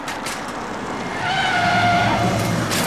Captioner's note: brakes squeal